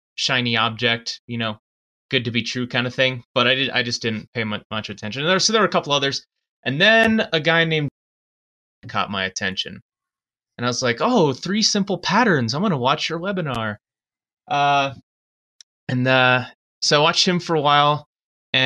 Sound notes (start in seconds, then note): 6.8 audio skips